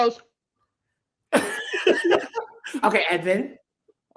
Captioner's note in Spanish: riendo